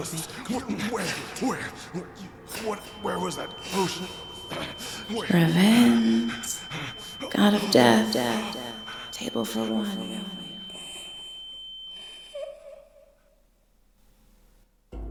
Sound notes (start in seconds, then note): 5.2 echoey inner thoughts over ear whine; 11.0 one last echoed wheeze and an ear whine fade to silence